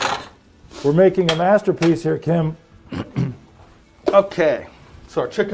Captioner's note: clears throat